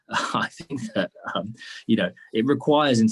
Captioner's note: chuckles